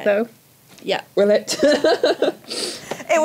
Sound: laughs

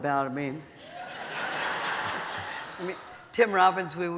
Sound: audience laughing

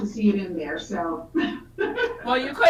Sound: laughs

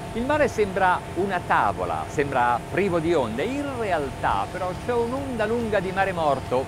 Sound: speaks Italian

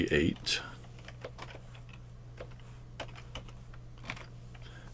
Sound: typing

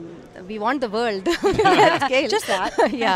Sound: laughing

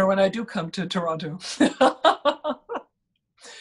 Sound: laughs

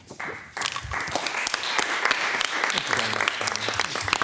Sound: all applauding

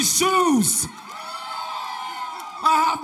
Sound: audience cheers

